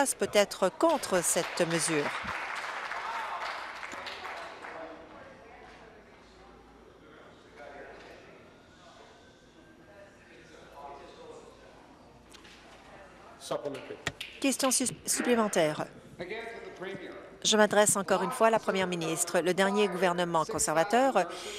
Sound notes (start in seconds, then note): 4.8 applause